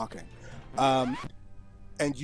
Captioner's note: record Scratch cuts off Newsroom Music